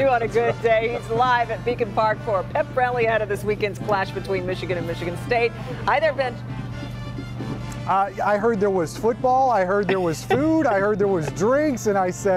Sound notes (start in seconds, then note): 5.2 laughter